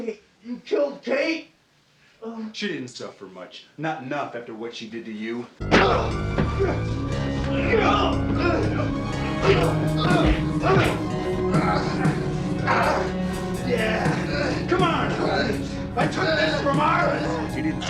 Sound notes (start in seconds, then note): 6.1 Hudson grunts; 6.1 dramatic music; 9.2 Hudson groaning